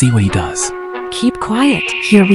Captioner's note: whispering